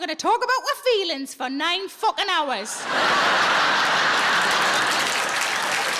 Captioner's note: audience laughs